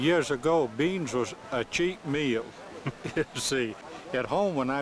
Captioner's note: chuckles